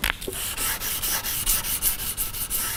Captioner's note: grinding noises